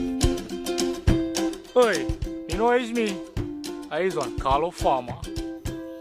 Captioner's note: speaking foreign language